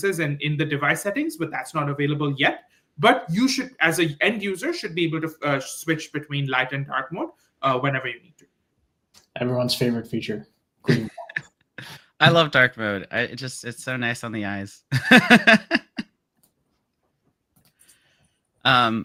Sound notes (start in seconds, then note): 10.8 laughs; 14.9 laughs